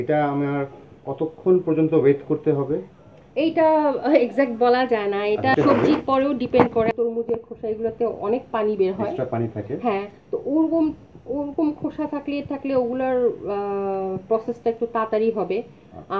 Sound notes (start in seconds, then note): 4.7 giggle